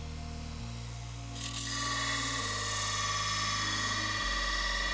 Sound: metal grinds

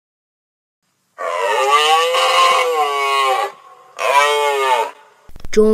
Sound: sound of a rhinoceros

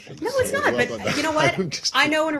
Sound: laughter

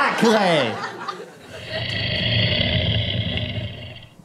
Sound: scary growling

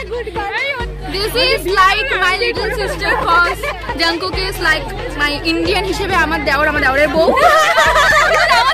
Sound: imaginary happiness and laugh

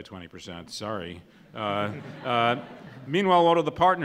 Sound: laughs

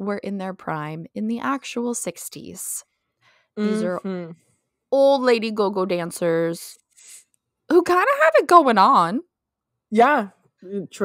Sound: mhmm

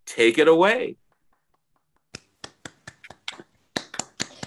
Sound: applause

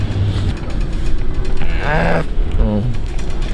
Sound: moans

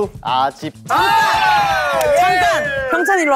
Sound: members all cheering

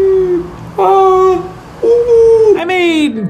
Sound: monkey noise

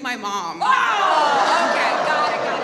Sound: audience yells

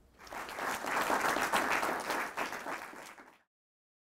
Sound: audience clapping

